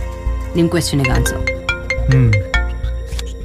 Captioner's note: cell phone rings